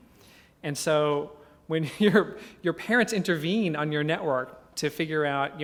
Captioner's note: laugh